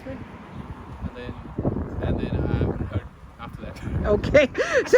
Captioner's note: laughs